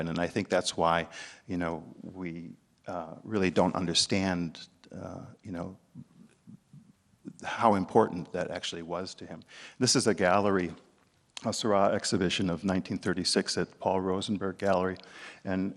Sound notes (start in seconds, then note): none